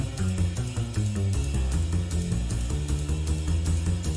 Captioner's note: none